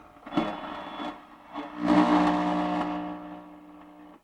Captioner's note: radio crackles